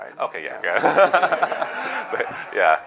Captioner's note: laughter